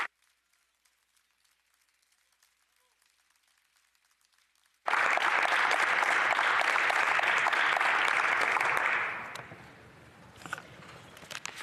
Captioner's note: applause